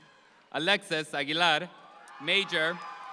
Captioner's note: audience applauds